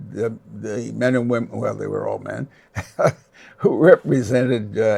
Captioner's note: laughs